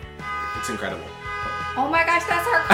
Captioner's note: car alarm blares